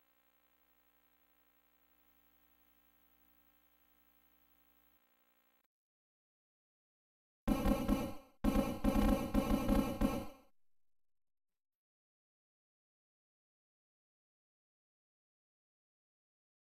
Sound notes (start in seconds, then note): 0.0 silence; 7.5 16-bit basketball dribbling sounds